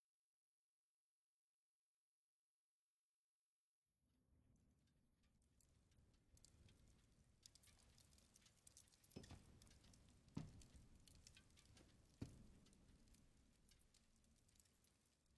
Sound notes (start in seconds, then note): 4.0 rain pattering